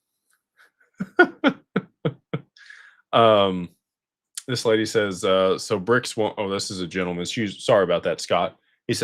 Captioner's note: laughter